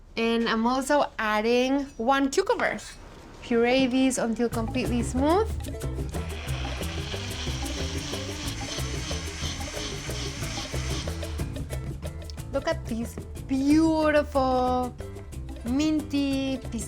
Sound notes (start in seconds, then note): 6.2 whirring; 11.2 whirring stops